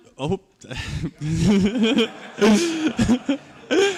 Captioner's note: laughter